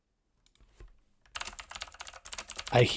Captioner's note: keyboard clacks